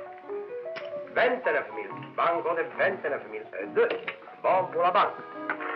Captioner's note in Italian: lingua francese